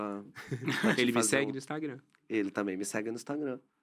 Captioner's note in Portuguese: risos